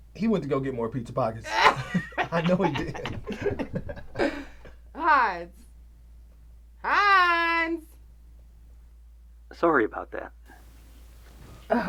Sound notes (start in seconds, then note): 1.5 Terra chuckles